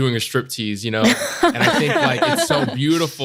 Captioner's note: all laughing